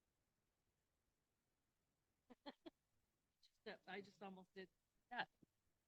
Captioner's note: laughter